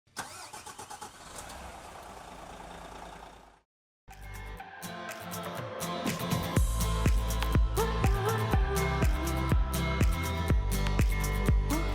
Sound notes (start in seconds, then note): 0.1 engine starting; 4.1 cheerful music